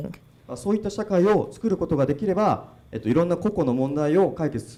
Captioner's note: speaking foreign language